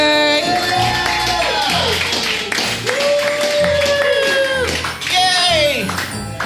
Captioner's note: audience cheers and applauds